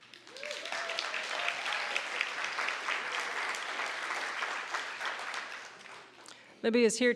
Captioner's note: applause